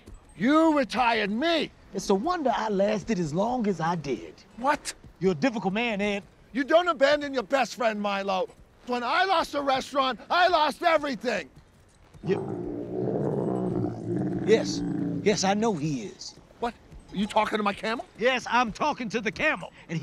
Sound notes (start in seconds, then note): 12.2 camel bellowing